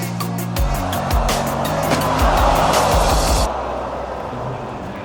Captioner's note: loud gasp from the crowd